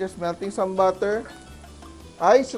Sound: sizzle

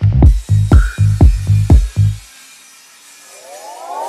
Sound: saw whirs

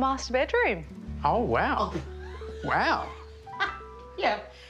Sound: gasps, laughs

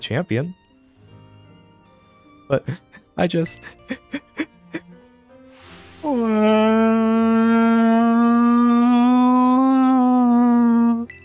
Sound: Kieran crying

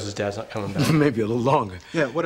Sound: chuckles

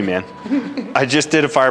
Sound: laughs

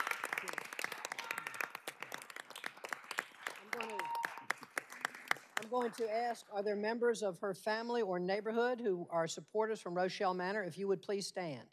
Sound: cheers and applause

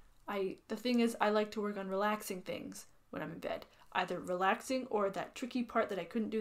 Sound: none

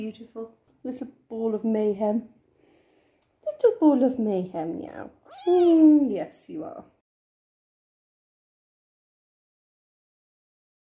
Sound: meow

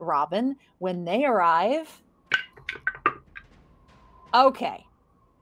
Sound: dice clank

